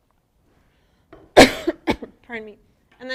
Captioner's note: coughs